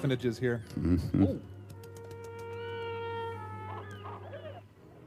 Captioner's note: mimics wings flapping